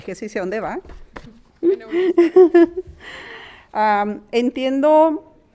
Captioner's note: speaking in foreign language